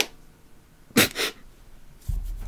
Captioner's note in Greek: Σύντομο γέλιο